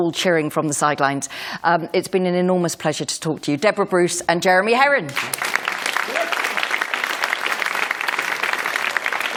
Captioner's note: applause